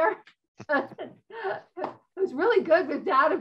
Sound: laughs

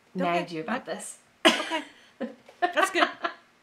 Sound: laughing

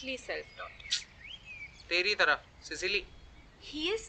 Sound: snickers

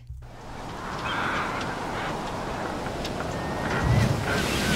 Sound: wind and seagulls

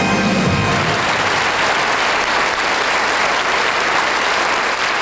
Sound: audience applauding

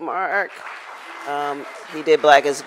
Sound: crowd applauds

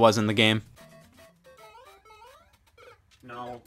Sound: Mario Jumping and Dying

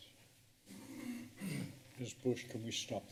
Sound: clears throat

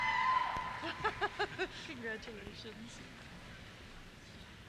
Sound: cheers; laughter

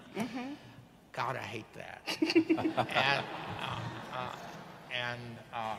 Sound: audience laughing

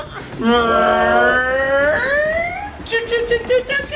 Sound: choo choo noises

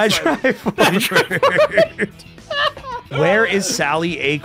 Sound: laughs

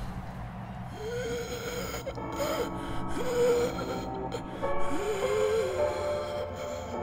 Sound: gasping

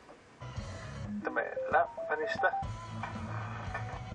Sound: beeping and sound from the video

